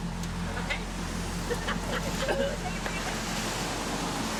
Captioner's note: people laughing